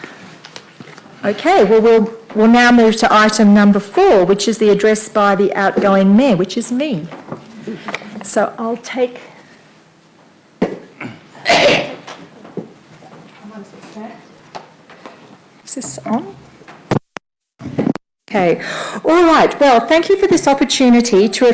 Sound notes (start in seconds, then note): 10.9 coughing; 12.7 speaking off mic